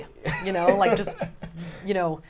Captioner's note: laughs